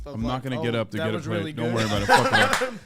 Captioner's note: laughs